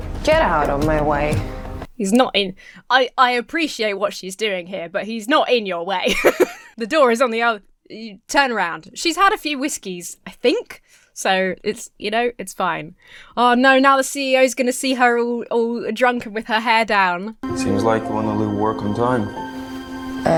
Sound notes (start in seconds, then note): 6.0 Emma laughs